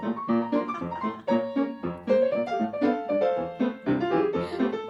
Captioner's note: laughing